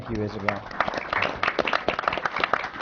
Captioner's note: applause